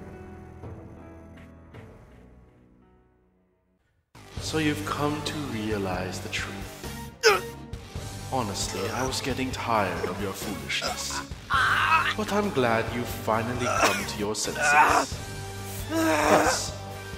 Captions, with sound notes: So you've come to realize the truth... *Urgh!* Honestly, I was getting tired of your foolishness... But I'm glad you've finally come to your senses. Thus,